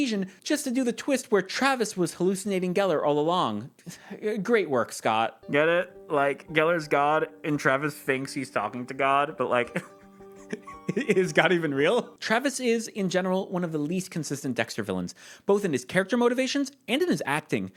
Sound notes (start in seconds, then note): 3.7 sighs; 10.4 laughs